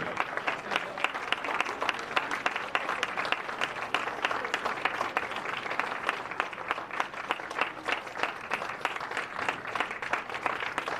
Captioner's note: applause